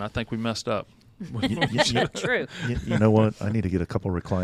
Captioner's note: laughing